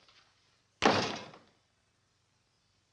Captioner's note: door slams